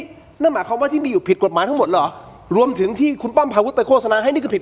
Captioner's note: none